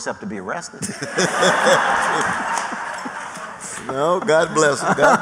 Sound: laughter

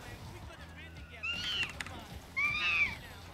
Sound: monkey screech

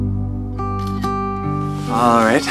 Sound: camera snapping

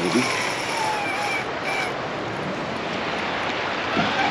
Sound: reel cranking; water flowing; reel cranking

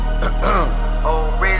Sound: clears throat

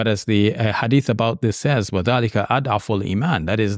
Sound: speaking in Arab

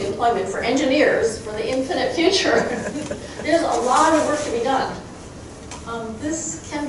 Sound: crowd chuckling

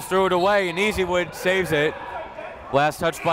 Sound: whistle

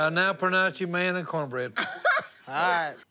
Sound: laughs

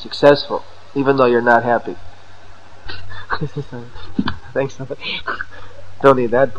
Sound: laughter

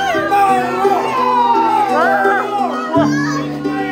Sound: all shout

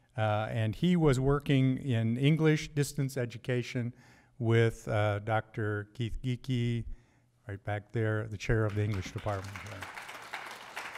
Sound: applause

